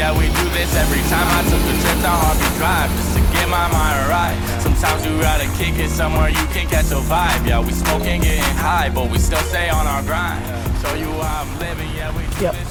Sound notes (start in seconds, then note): 2.1 engine